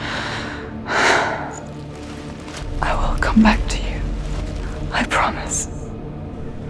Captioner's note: exhales